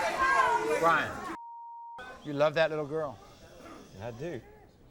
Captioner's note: beep